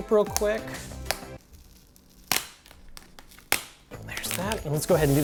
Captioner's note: tape ripping